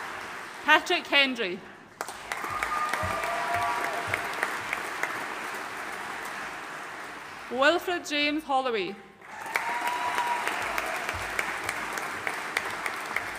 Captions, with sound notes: Patrick Hendry. (AUDIENCE CHEERING AND APPLAUDING) Wilfred James Holloway. (AUDIENCE CHEERING AND APPLAUDING)